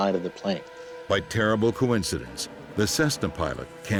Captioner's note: voiceover